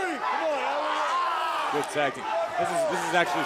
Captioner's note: crowd cheering